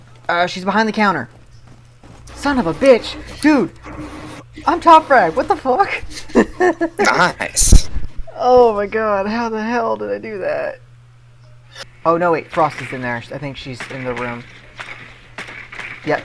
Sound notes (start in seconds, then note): 8.5 chuckling